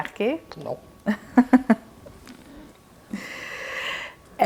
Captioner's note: laughing